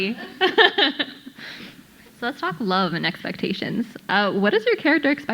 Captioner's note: laughs